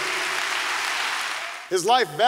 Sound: applause

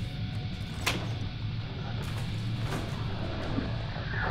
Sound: door slams; lock clicks

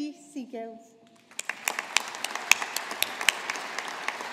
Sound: audience applauding

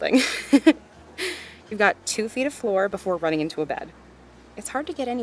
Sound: chuckles

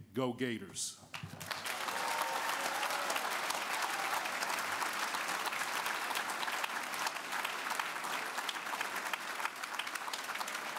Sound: applause

